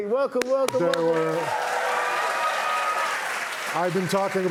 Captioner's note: cheers and applause